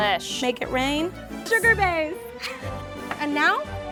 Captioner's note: laughs